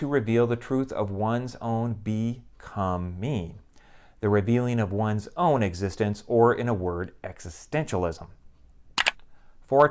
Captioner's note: mouse click